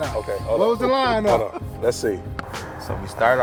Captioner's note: laughs